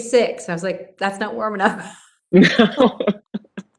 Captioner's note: laughs